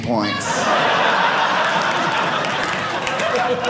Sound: audience laughing

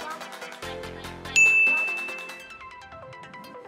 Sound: upbeat techno music; beep

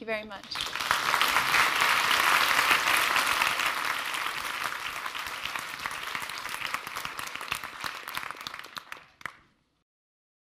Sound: applause

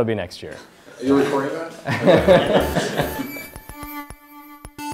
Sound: laugh

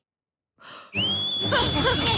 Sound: whistling

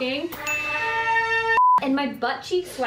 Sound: trumpets buzzing; screen beep

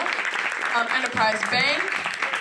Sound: applause

